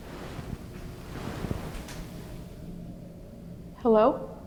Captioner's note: clicking